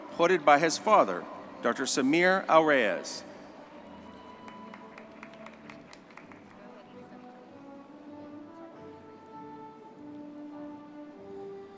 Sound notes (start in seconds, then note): 6.2 audience clapping; 6.2 soft gentle music